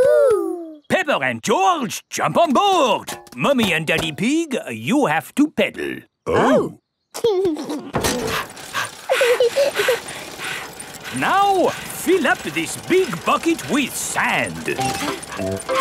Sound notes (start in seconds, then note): 8.1 mummy pig panting; 8.2 daddy pig panting; 8.7 peppa chuckles; 8.7 chuckles